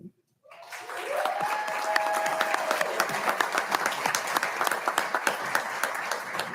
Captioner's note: audience applauding; audience cheering